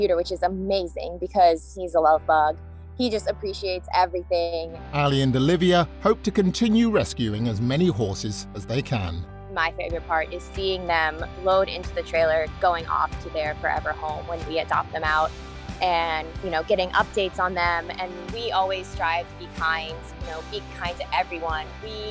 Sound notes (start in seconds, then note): 5.0 voiceover